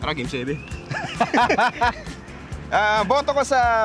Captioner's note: both laugh